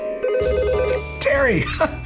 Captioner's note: phone ringing; laughing